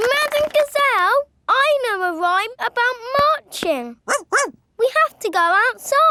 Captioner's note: laughing and clapping; barks